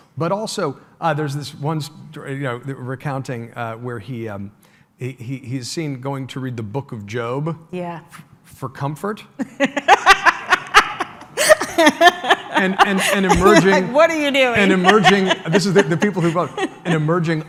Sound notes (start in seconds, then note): 9.5 laughs